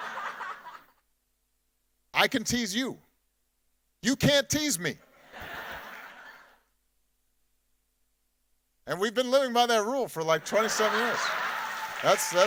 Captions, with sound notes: (audience laughing) "I can tease you, you can't tease me." (audience laughing) And we've been living by that rule for like 27 years.